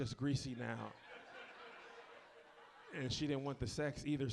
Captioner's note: audience laughs